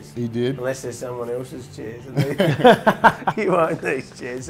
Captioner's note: laughs